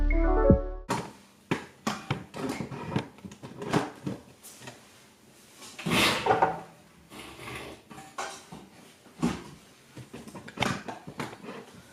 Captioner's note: outro music plays; loud noises of my tripod, desk, and chair moving